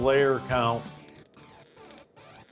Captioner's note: crackling